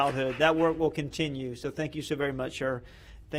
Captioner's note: applause